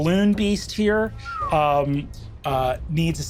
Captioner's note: whistles